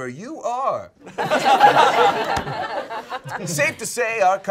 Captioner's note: all laughing